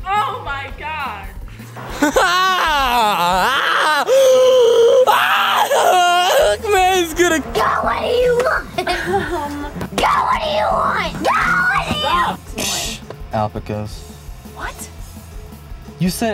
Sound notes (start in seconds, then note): 2.0 laugh screaming; 8.6 screaming; 10.0 screaming